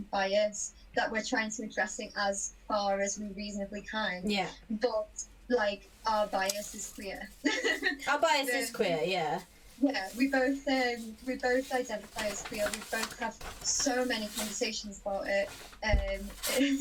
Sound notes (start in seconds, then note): 7.4 laughs; 15.2 laughs